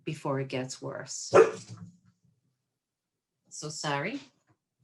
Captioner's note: dog barking